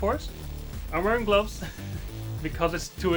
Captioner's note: chuckles